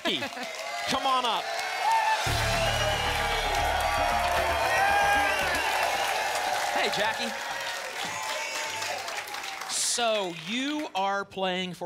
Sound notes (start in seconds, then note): 5.0 applause and cheering cont; 8.0 applause and cheering cont